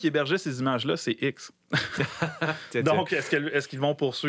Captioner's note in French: rires